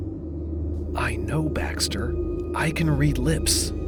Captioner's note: low voice